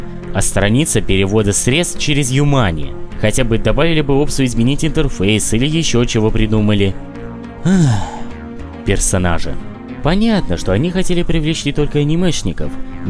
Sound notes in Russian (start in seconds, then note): 7.6 Вздох